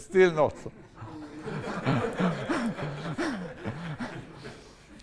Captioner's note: laughter